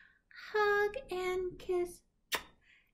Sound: kissing

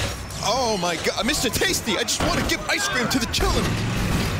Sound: in ghetto accent

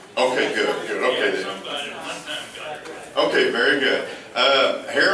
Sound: laughs

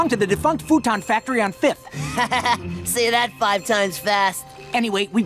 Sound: chuckles

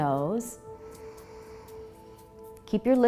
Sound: inhaling

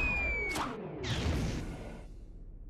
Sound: thudding

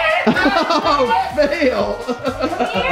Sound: laughs

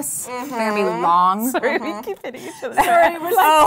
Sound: giggling

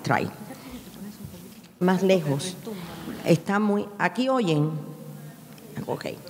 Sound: speaking in a foreign language

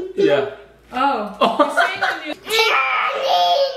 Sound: dad laughs

